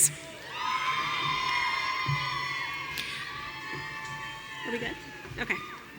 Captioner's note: audience cheering